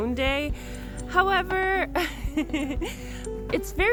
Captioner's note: laughs